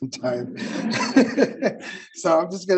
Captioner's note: all laughing